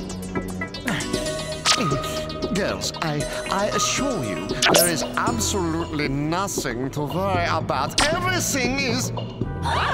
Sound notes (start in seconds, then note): 5.9 in foreign accent